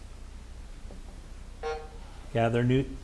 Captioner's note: timer buzzing